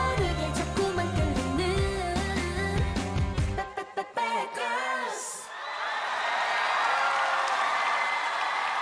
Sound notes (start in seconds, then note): 5.4 screams and Applause